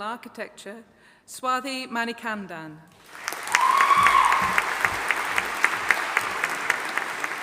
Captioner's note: audience applauding